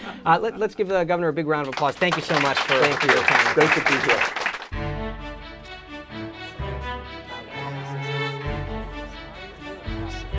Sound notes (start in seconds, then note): 0.0 laughter; 3.5 applause